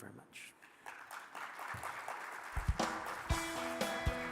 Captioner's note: crowd applauding; bright music